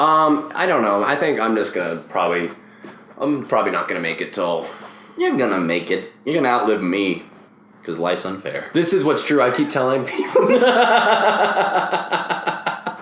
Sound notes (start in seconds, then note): 10.1 both laugh hysterically